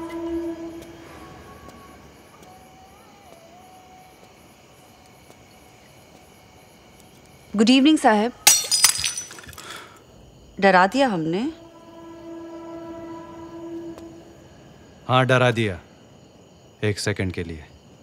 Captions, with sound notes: Good evening, Saheb. - [Glass shatters] Did I scare you? Yes, you did. For a second.